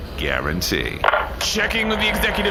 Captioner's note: mic feedback